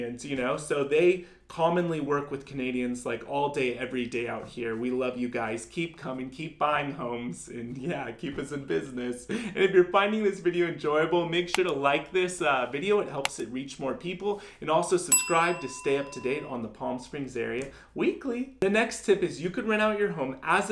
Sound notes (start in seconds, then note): 11.5 button clicking; 13.2 button clicking; 15.1 bell ringing